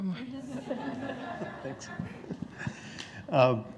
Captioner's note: group laughing